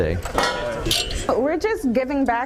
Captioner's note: clanging sound